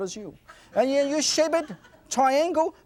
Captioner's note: audience laughs